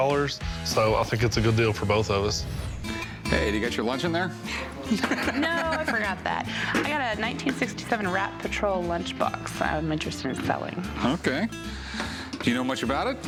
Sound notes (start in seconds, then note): 4.5 laughs